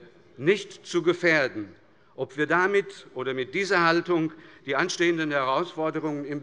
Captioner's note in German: none